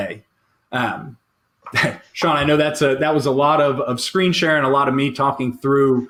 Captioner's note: chuckles